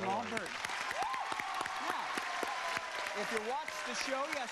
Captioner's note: crowd cheers